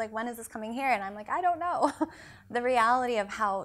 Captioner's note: chuckles